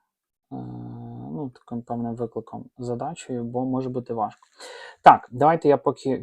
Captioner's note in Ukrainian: сопіння